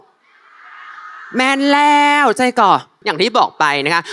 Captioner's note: in Northern dialect